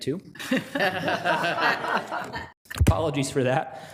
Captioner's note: people laughing